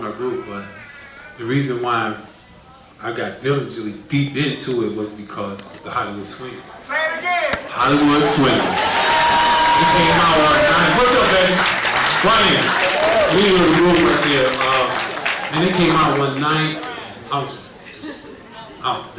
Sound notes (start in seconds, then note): 8.6 cheering and applause